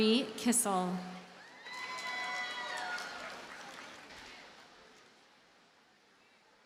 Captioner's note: audience cheers and applauds